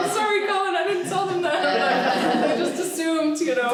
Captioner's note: laughing